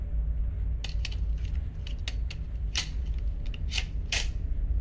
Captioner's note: magazines clicking